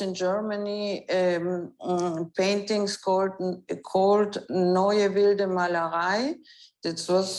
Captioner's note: speaks in foreign language